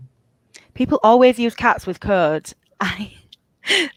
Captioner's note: chuckles